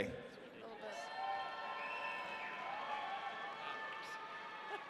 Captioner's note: audience cheering